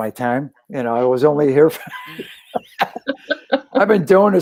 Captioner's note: laughter